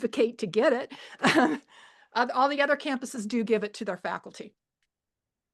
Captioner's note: laughs